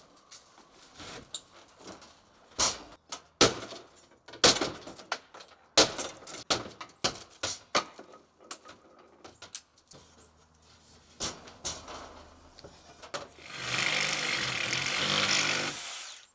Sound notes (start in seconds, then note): 3.4 hammer smashing; 13.4 saw whirring